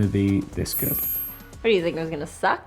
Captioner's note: twinkle noise